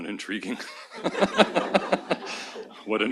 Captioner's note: laughter